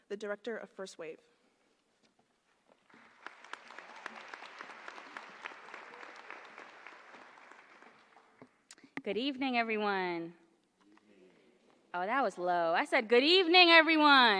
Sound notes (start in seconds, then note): 2.8 applause